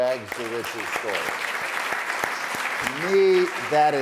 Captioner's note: applause